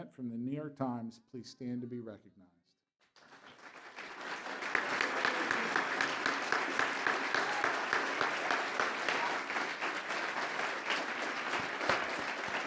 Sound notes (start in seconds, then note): 3.8 applause